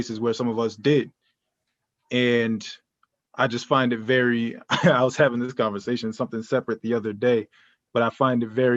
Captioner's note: laughter